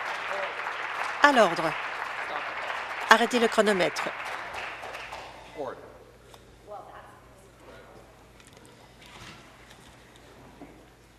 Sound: applause

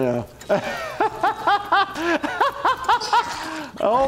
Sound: laughing; Stan vomiting

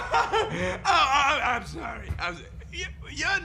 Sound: rocket laughing; stuttering

